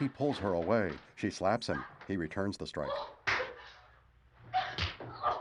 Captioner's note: screams